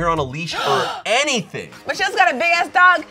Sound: woman gasps

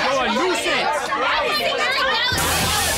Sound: screaming; hissing

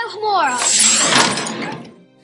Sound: door unlocks

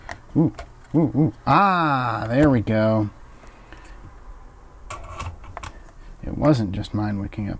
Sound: excited noises

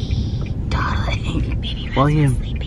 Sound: whispering

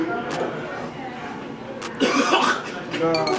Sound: coughing

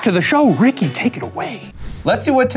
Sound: logo whooshing

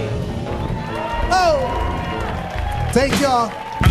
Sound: audience cheering

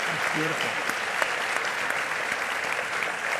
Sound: applause

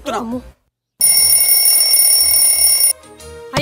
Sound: alarm rings

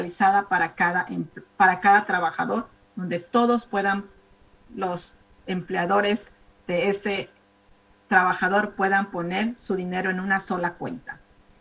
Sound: speaking spanish

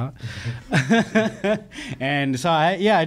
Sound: laughing

